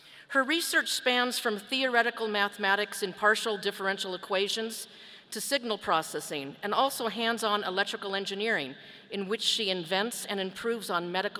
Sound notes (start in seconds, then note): none